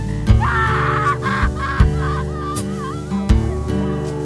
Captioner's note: sobs